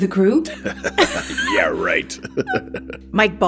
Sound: laughs

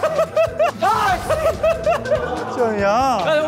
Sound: explodes for the 3rd time

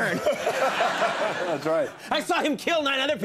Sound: audience laughs

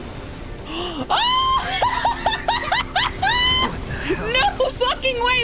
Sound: gasp, Scream, Laughter

